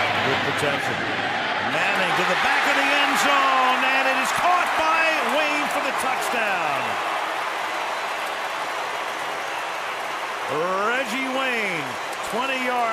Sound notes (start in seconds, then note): 7.3 cheering